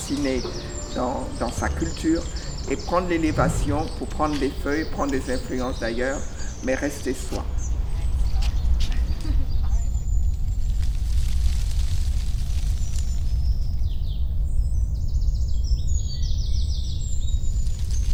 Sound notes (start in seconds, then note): 8.1 intense sound of the Earth’s hum; 8.1 music fades out